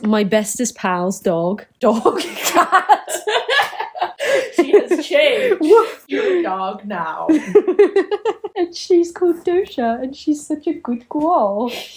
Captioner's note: laughs